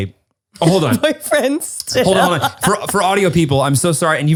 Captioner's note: laughs